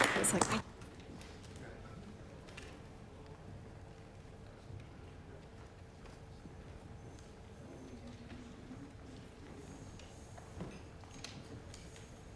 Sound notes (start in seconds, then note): 0.0 applause